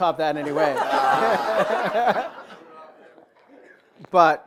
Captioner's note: laughter